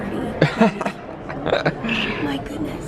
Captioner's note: chuckles